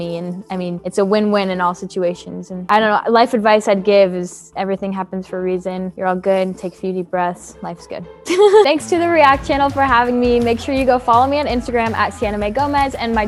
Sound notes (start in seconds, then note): 8.2 laughs